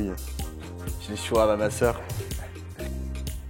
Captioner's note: laugh